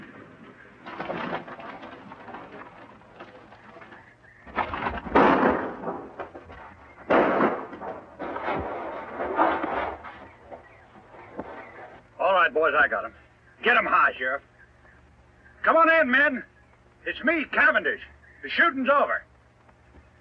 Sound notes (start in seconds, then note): 5.1 gunshots